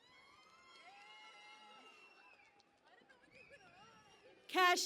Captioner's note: cheering and Applause